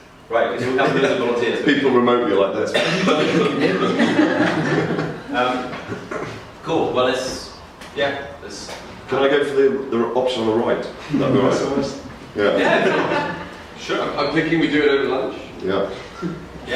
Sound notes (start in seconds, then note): 3.1 audience laughing; 12.6 audience chuckles